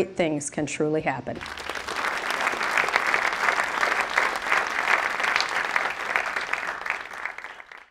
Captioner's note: applause